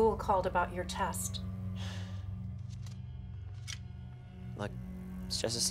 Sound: sighs

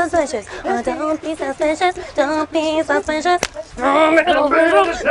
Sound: claP

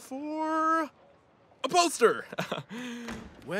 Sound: chuckles

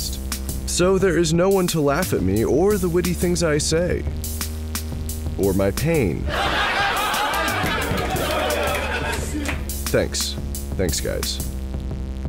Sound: laugh track

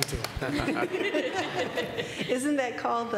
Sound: laughter

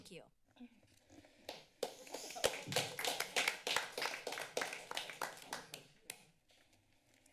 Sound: applause

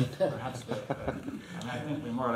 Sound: laughter

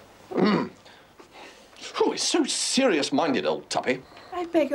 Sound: clears throat

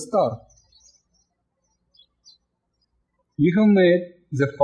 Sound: birds chirping

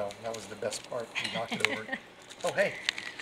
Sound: giggles

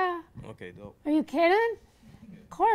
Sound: voiceover

